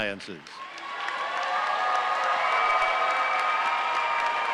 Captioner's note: audience cheering